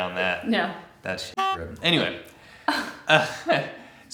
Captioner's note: honk